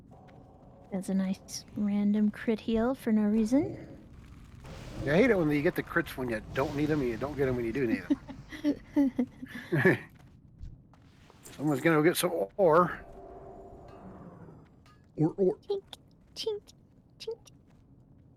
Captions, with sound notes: That's a nice random crit heal for no reason. You hate it when you get the crits when you don't need them and you don't get them when you do need them. [laughing] Someone's gonna get some ore. You want me to-- Chink, chink, chink.